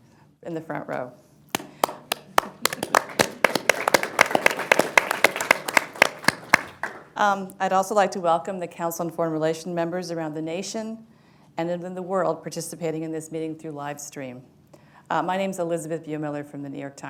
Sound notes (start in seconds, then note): 1.5 applause